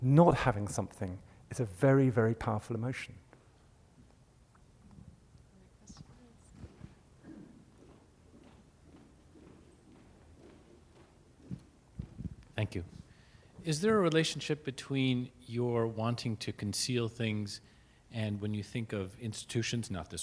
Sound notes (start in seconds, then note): 5.8 voiceover; 8.4 footsteps; 12.7 voiceover